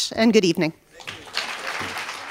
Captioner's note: applause